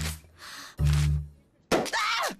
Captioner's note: deep sigh